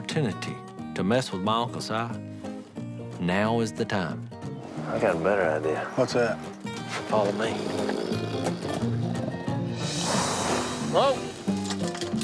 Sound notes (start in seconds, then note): 6.8 snoring